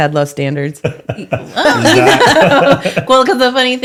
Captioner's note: laughing